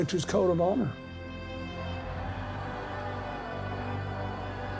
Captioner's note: cheers and applause